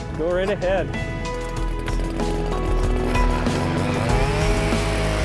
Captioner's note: drill whirring